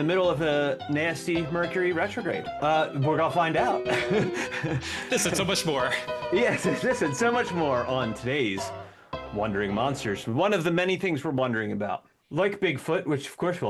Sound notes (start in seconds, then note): 3.7 laughter